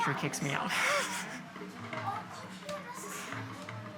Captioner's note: laughing